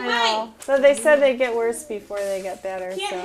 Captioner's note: voiceover